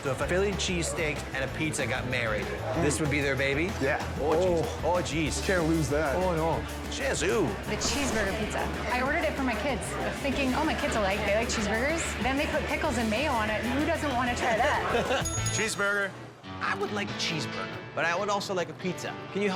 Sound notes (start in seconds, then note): 14.8 laughing; 15.2 bell dinging